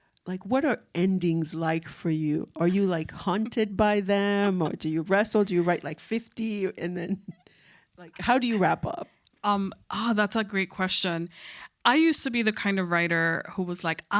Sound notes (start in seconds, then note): 3.9 chuckling